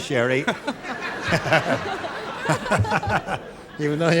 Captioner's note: laughter